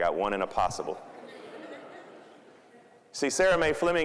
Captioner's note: crowd chuckling